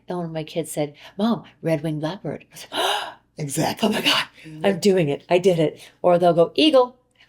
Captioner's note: gasp